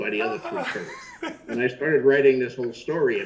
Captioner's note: Chris laughs loudly